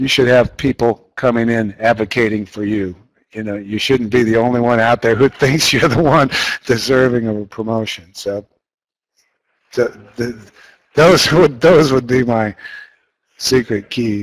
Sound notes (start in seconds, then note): 5.1 laughs